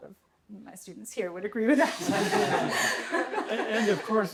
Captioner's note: laughter